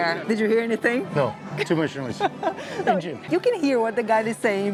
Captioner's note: laughs